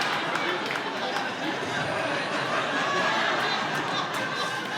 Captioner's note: chuckles